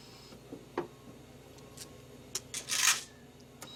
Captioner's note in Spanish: Sonido del monitor